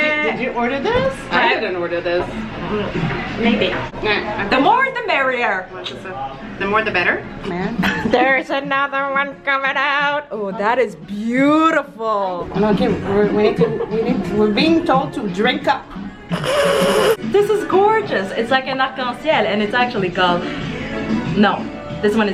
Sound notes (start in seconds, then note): 16.4 laughs